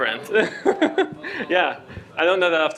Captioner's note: laughter